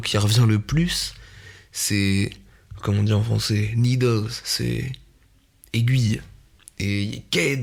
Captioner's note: mindboggling in french